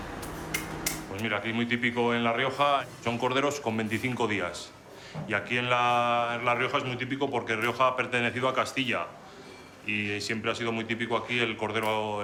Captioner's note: speaking Spanish